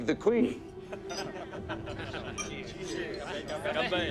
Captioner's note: all laugh